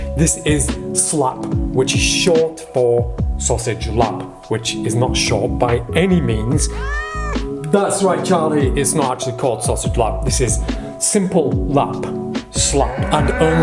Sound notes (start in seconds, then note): 6.1 cat meows